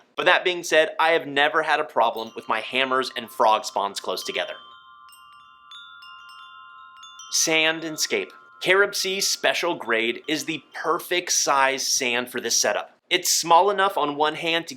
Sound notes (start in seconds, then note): 4.7 wind chimes chiming